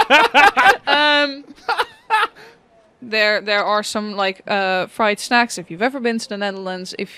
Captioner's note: laughter